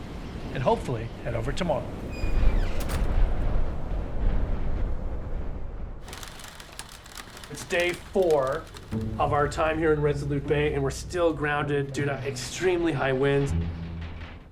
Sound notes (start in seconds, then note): 3.0 strong wind gusts; 6.0 hard rain